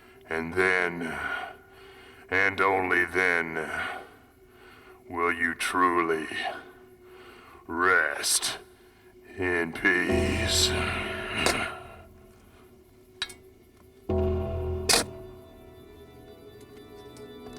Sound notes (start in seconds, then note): 11.3 dramatic music; 11.3 shovel scraping